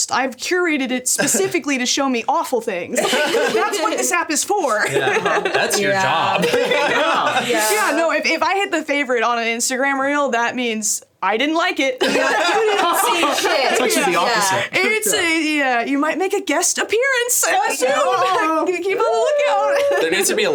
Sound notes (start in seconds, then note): 4.6 laughs; 12.0 all laughing